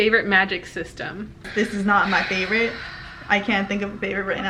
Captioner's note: sighs